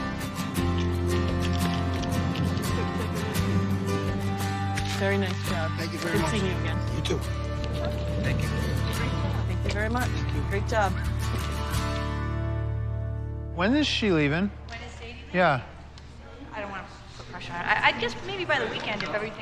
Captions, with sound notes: Very nice job. Thank you very much. Good seeing you again. You, too. Thank you. Great job. Thank you very much. Thank you. Great job. When is she leaving? (WOMAN SPEAKS) Yeah.